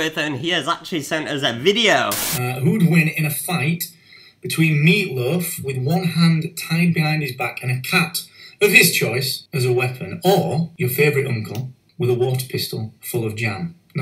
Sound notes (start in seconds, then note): 2.0 static